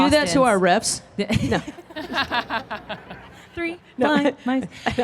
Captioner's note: both laughing